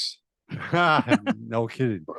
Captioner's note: laughing